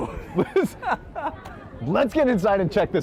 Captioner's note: men laughing